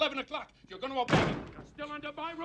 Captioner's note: door bangs